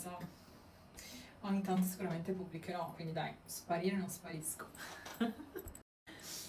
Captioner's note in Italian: risate